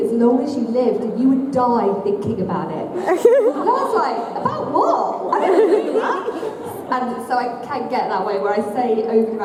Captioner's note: laughter